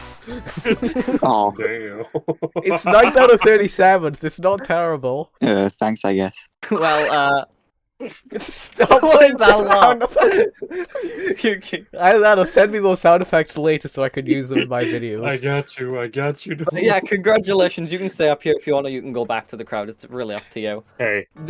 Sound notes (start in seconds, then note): 0.3 laughs; 8.7 bizarre laugh sfx